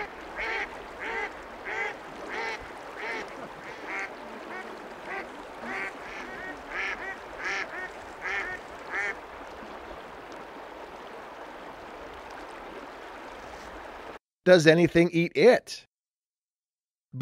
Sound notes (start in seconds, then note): 0.0 rushing water and duck quacking sounds; 10.0 rushing water sounds